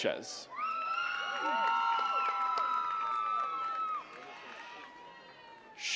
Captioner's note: attendees cheering and clapping